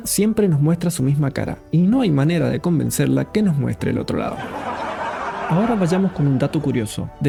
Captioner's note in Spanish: risas